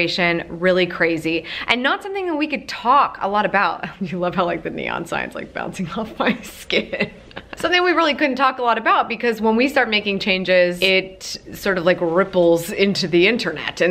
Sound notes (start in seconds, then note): 6.4 laughs